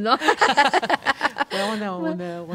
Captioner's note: laughs